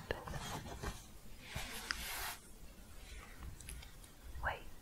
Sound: shuffling

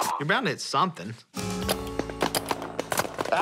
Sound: paintballs firing

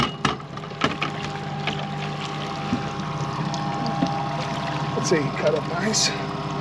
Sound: fish thrashing

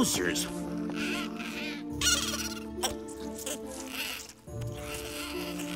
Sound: chittering

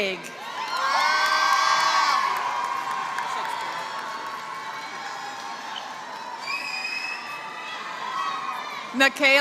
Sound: applause

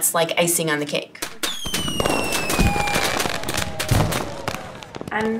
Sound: fireworks sounds

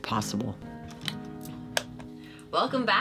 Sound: lights clicking

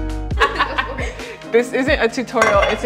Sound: both laughing

